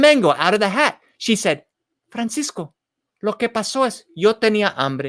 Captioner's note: spoken in foreign language